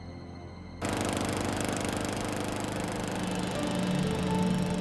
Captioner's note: lawnmower buzzing; calm music